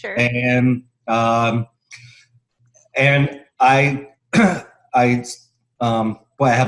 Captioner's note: cough